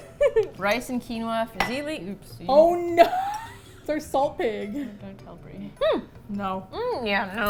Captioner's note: laughs; laughs